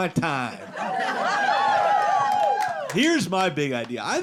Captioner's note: audience cheering